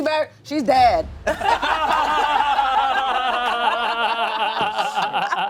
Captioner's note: everyone laughs